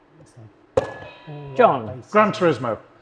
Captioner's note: buzzer blares